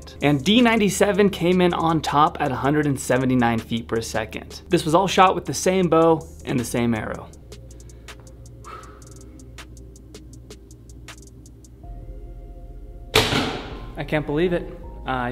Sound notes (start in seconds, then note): 8.6 presenter exhales; 13.1 arrow thud